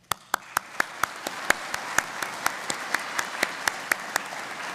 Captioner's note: audience applauding